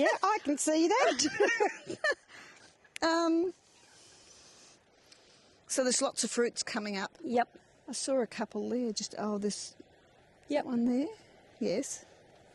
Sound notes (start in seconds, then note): 1.0 laughs; 1.6 laughing